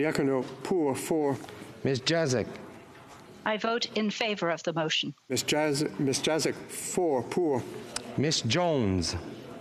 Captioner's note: speaking FRENCH